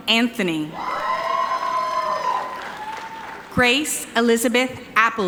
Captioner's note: audience cheering